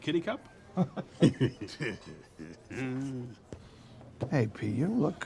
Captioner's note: group chuckling